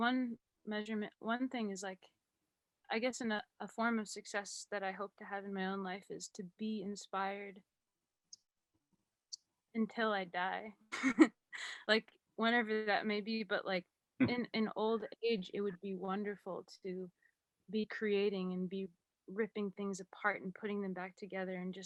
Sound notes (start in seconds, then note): 11.5 laughs